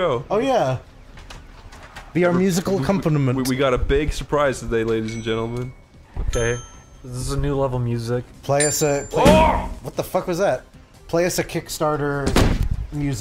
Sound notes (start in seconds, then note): 9.5 smak; 11.9 thuomp